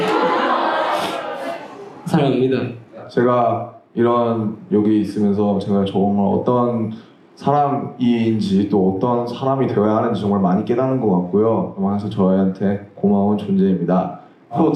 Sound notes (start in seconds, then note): 1.0 sniffles